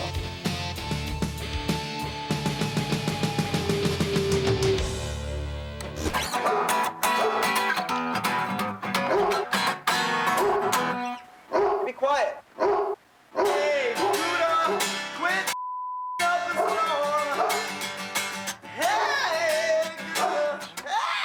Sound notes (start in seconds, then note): 0.3 intense rock music; 5.9 mild acoustic guitar strumming; 10.3 dog barking; 12.5 dog barking; 15.5 beep